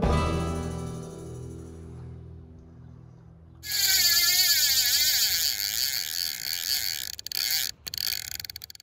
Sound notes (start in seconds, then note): 0.0 relaxed guitar music ends; 3.6 reel clicking